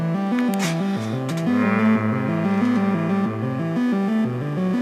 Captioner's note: hums